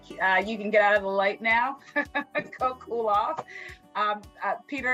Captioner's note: laughs